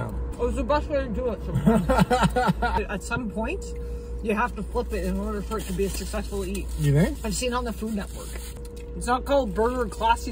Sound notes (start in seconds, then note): 1.5 laughs